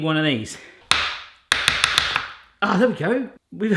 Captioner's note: tapping